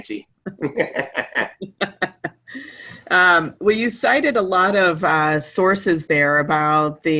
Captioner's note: laughter